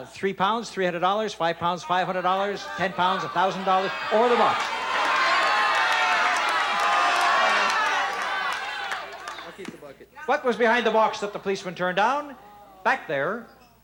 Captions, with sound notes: Three pounds, $300, five pounds, $500, ten pounds, $1,000, or the box. -(shouting) -I'll keep the bucket. -What was behind the box that that the policeman turned down? Back there...